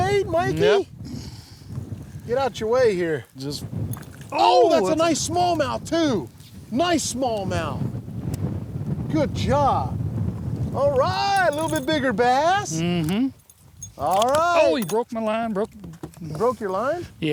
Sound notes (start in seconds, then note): none